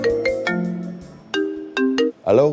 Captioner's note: phone Ringing